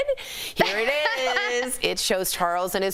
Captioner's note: laughter